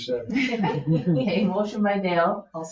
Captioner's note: members laugh